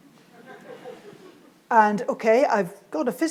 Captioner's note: audience laughs